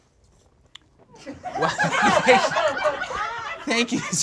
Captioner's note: audience laughs